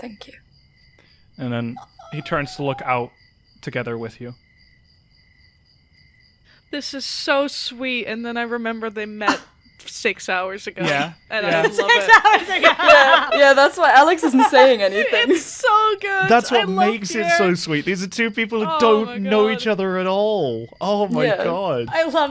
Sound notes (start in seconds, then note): 11.4 laughter; 12.1 laughing